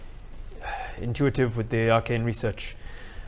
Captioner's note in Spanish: suspiro